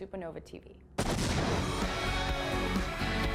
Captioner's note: loud bang; energetic music